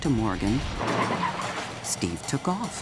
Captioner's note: tires screeching